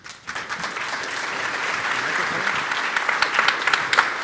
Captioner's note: applause